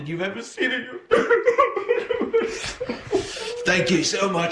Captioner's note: crying